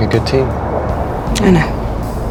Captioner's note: voiceover